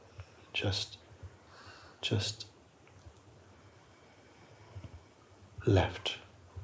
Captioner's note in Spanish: exhalación profunda